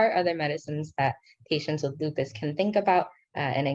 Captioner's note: speaking in foreign language